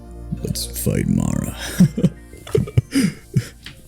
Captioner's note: laughs akwardly